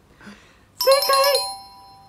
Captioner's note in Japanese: 高い声で